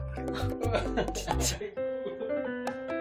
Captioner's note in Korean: 어이없는 웃음